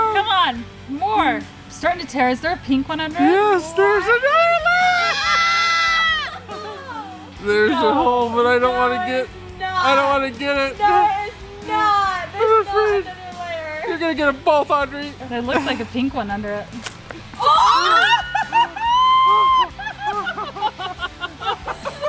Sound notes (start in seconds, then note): 4.6 screaming; 16.9 balloon pops; 18.7 ding; 19.7 laughing